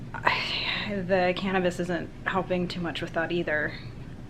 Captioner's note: sighs